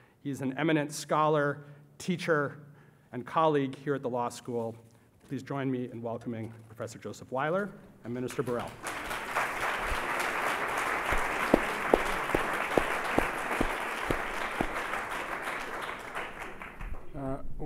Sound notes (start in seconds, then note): 9.1 applause